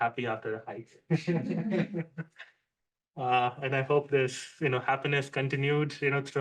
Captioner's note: laughs